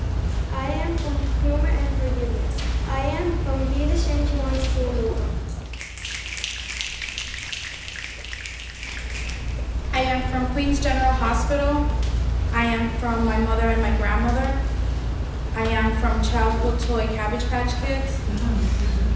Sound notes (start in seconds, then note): 5.6 snapping